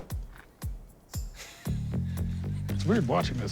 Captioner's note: laughs